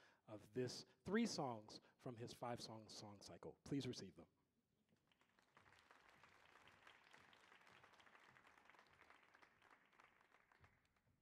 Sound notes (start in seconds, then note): 5.1 audience applauding